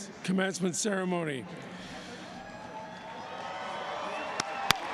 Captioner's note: cheers and applause